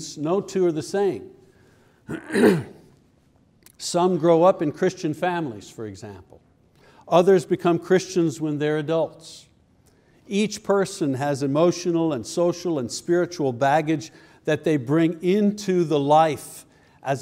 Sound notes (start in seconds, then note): 2.0 clears throat